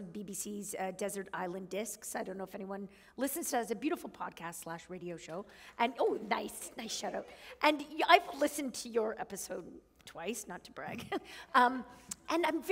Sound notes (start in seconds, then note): 11.2 chuckle